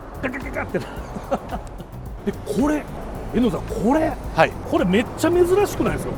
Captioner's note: laughs